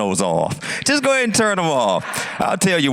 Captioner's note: audience laughs